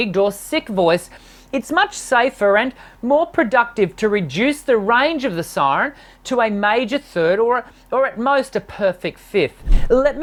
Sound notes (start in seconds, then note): none